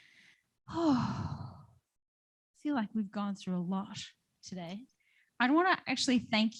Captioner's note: sighs